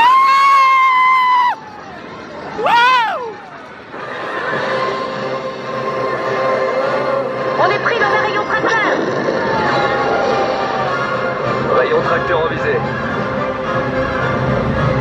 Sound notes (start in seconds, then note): 0.1 screaming; 8.1 announcer speaking in French